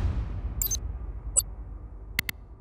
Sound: graphic whirs and booms; button clicks

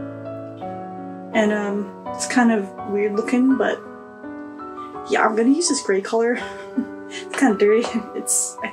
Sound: giggles

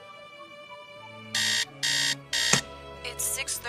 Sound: alarm beeps

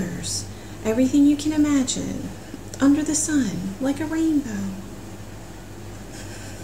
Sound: laughs

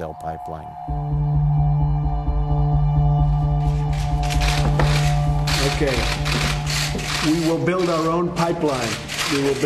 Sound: camera clicks

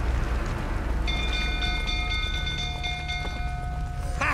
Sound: alarm bell ringing; drunkenly; laugh

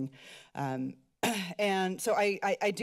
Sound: clears throat

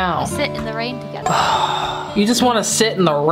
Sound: sighs

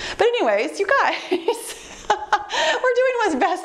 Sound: laughs

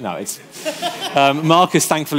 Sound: audience laughing

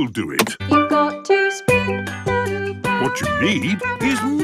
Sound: radio

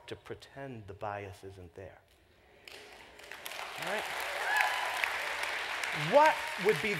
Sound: applause

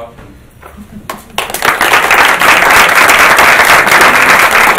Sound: applauding

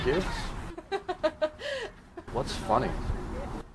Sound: laughing

